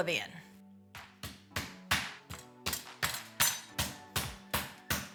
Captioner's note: beef mallet pounding